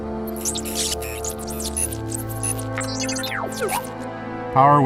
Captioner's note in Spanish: Beep de felicidad